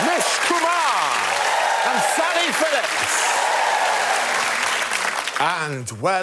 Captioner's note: applause